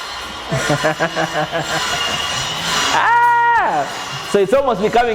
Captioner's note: laughs joyfully